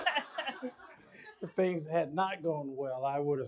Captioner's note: laughter